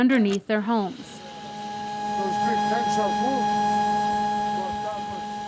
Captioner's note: loud whirring